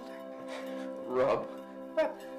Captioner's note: chuckling